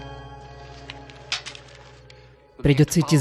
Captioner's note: twig snapping